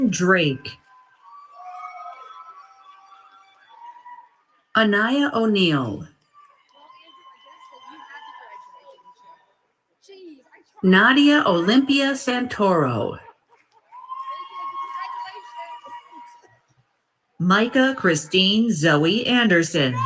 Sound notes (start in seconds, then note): 0.3 applause; 4.7 announcement of graduates and following applause